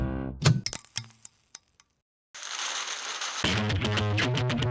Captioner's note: click; static